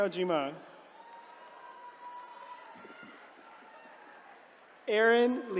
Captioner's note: attendees cheering